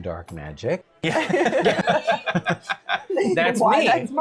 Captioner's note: laughter